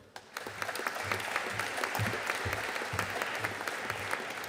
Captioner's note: audience applauding